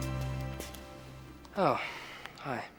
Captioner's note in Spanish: suspira